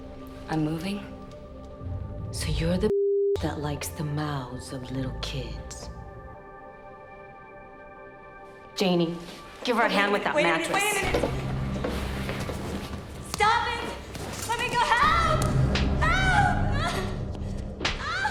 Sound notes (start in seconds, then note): 16.0 slapping; 18.0 sobbing, screaming